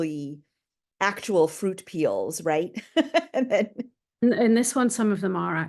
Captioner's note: chuckling